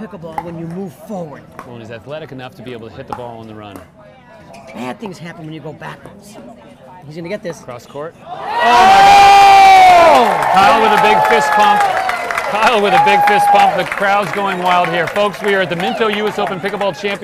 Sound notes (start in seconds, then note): 9.5 audience applauding and cheering